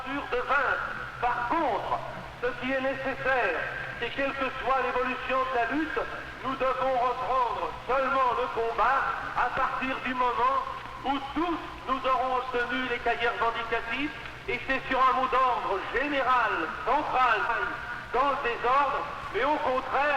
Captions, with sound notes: [French] It is necessary in any revolutionary struggle to resume the fight only once we've all obtained our dossiers of demands. Let us not act on general central slogans in disorder